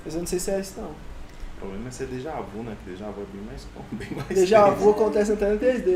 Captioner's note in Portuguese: Risos